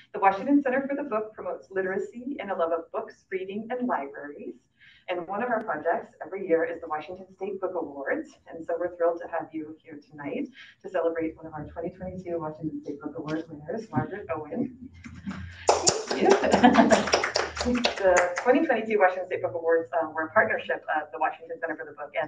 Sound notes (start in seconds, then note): 16.7 audience applauding; 17.5 laughs